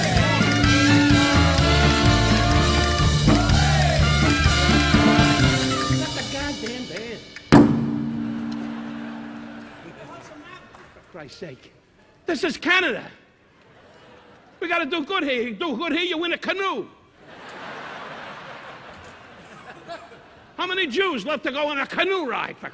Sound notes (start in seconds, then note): 0.1 upbeat instrumental music; 8.2 audience laughing; 13.6 audience laughing; 17.2 audience laughing